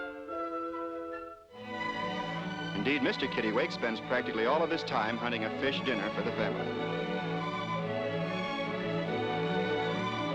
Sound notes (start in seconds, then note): none